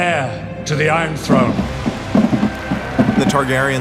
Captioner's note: drumbeat; cheering, applause